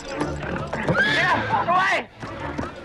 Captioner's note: horse neighs